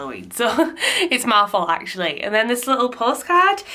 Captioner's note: chuckling